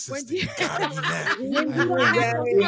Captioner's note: laughing